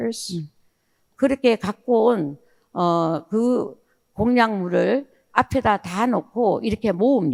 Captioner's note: speaking in foreign language